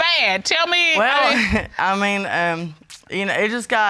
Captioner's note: chuckles